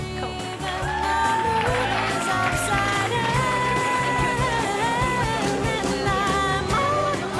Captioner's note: upbeat music; audience cheering